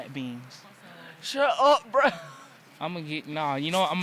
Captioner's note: laughs